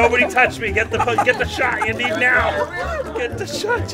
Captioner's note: laughter